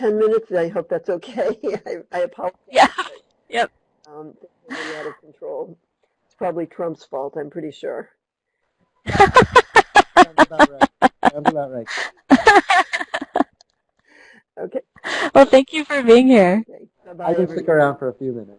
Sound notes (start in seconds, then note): 9.1 laughing; 12.6 laughter